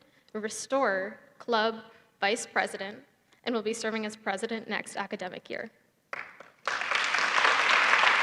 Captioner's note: applause